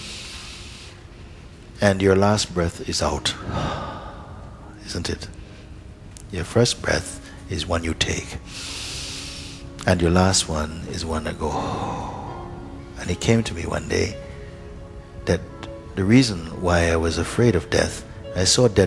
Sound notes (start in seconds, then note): 0.8 inhales; 3.2 exhales; 8.5 inhales; 11.3 exhales